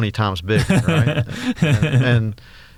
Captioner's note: laughs